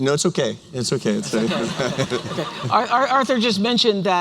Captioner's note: laughter